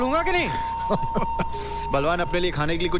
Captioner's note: Laughs